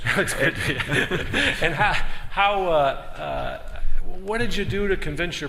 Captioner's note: laughter